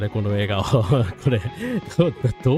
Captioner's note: laughter